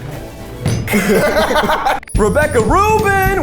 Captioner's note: both laugh